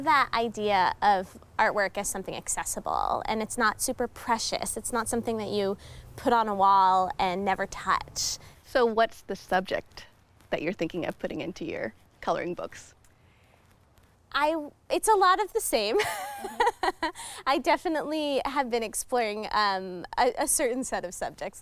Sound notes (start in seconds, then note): 15.9 laughing